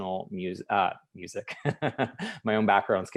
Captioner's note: laughing